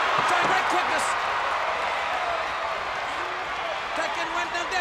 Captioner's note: audience cheers